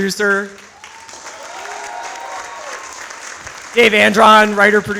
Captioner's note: audience applauds